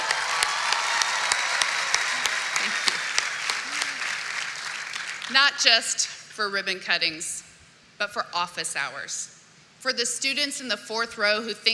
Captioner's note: cheering and applause